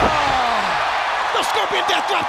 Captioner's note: Sting thudding on ring; wrestlers thudding on ring